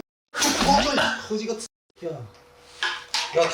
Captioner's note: laughing out loud